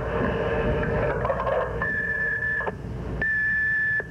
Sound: beep

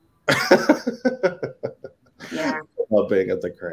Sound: laughing

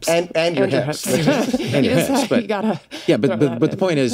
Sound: all laugh

